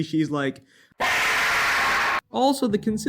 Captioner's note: half life screaming